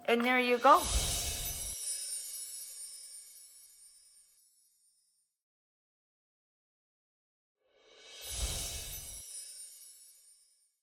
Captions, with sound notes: And there you go. (gently chiming bells) (gently chiming bells)